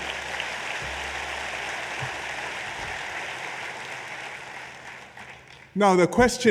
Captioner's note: applause